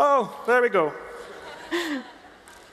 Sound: laughter

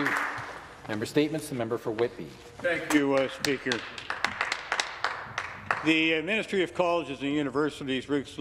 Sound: some Applause

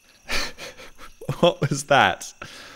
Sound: laughs

